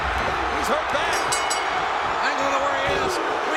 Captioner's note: bell dinging